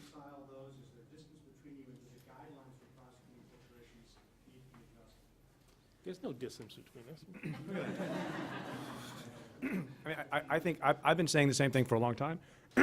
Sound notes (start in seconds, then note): 7.4 laughing; 9.6 clears throat; 12.6 clears throat